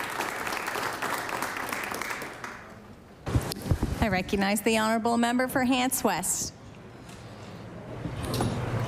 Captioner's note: applause